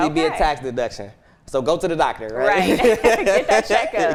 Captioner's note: laughs